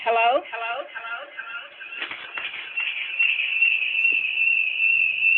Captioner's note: phone echoing